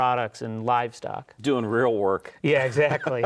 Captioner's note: laughs